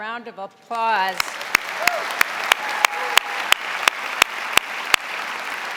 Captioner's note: audience applauding